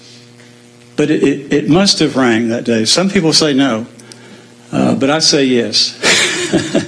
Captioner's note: laugh